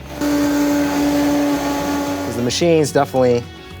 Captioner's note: blender whirring